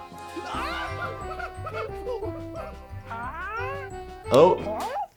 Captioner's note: Nutty laughing gleefully